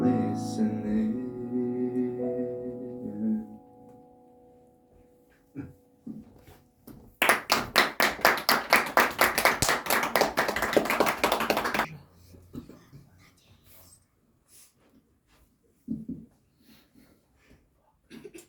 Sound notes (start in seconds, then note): 7.2 audience claps